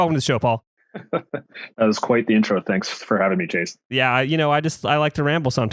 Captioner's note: laughs